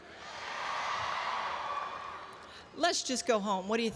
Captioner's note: audience cheers